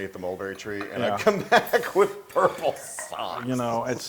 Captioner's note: laugh